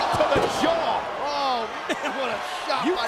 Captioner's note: laughs